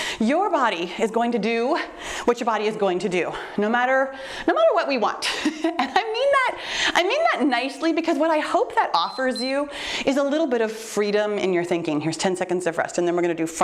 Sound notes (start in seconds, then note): 8.9 timer beeps